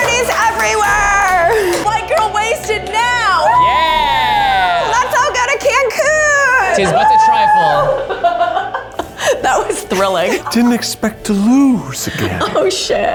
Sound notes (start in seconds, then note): 4.1 everyone cheers